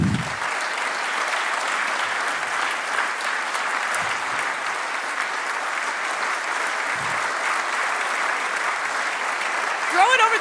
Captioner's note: applause